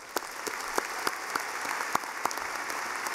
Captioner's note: clapping